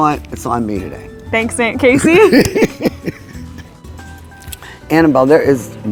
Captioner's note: laughs